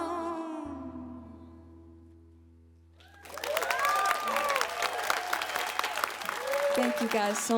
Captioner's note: crowd applause